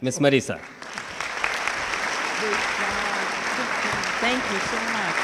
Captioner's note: audience clapping